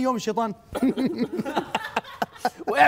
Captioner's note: the devil laughing